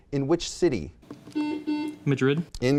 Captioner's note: buzzing